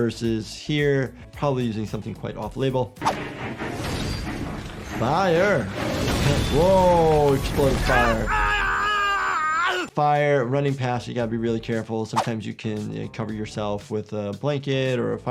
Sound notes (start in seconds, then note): 3.0 tense music; 7.7 Miles Upshur yells